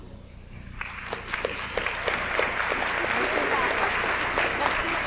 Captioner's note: audience applauds